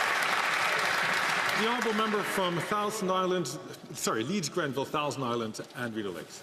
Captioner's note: some Applause